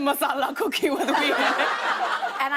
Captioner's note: laughter